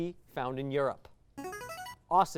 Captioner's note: signaling device tone